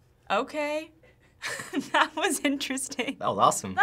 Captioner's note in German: lacht